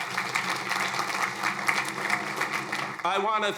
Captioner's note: crowd applauding